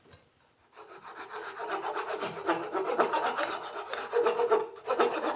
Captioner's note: sawing through wood